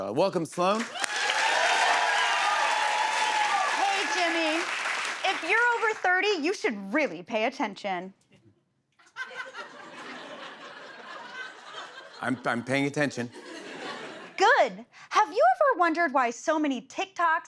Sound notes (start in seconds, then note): 0.7 cheers and applause; 9.0 laughter